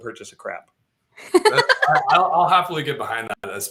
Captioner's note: laughter